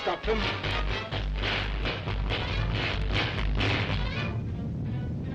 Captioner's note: electricity crackling